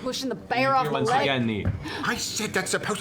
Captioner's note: creepy breathing